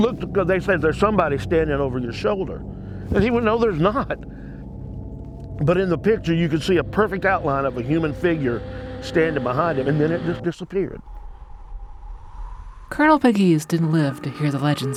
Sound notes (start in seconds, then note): 6.6 figure hissing; 11.0 wind whooshing